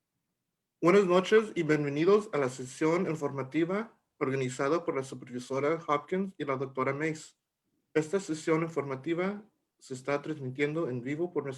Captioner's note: Spanish